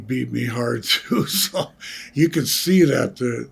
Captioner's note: Greg Chuckling